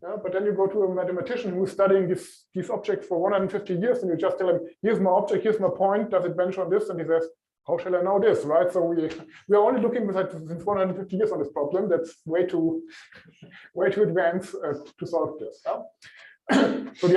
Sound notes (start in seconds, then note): 8.6 laughs